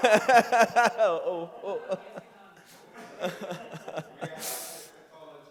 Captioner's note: laughing continues